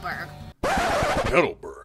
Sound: record Scratch

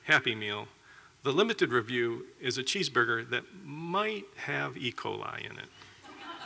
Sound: laughter

